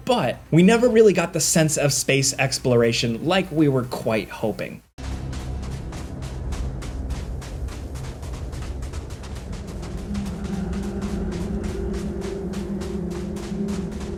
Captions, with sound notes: but we never really got the sense of space exploration like we were quite hoping. (footsteps thudding)